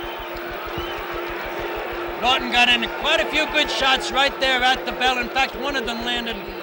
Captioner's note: bell sounds